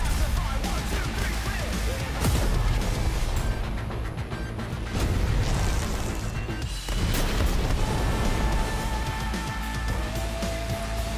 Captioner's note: gunshots